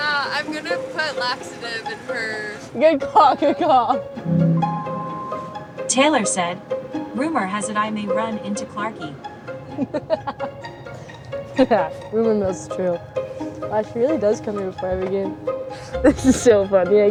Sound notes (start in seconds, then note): 9.6 laughing